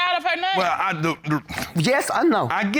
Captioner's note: stammers